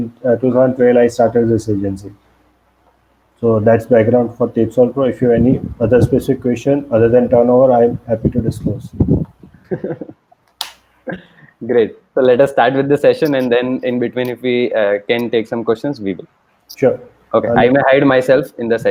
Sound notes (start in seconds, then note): 9.5 laughs